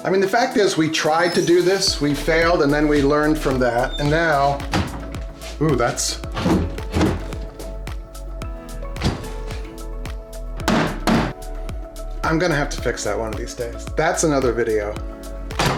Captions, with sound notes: I mean, the fact is we tried to do this, we failed and then we learned from that and now, oooh, that's. (door slams twice) (mallet knocks) I'm gonna have to fix that one of these days. That's another video.